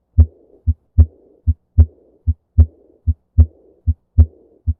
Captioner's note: heart beating